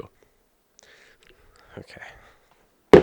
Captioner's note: breath